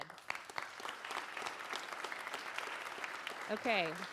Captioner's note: applause